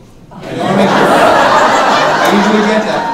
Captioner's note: audience laughing